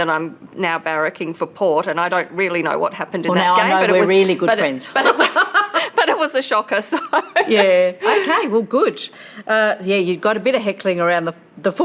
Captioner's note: laughs